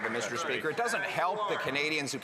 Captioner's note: some Applause